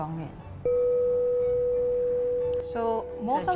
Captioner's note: gong